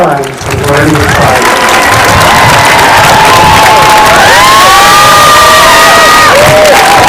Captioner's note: applause and cheering